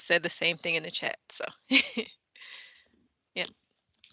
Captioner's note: chuckles